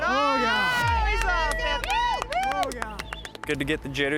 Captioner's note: people cheering